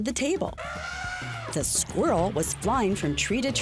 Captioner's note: horn blowing